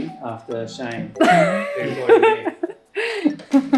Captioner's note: laughing